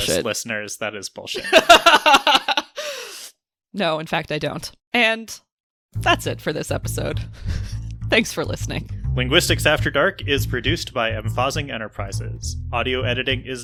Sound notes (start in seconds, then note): 4.1 laughs